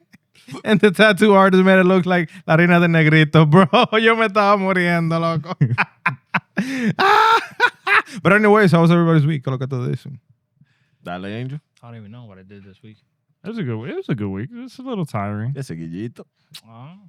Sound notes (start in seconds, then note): 2.4 speaking Spanish; 7.0 laughing; 9.5 speaking Spanish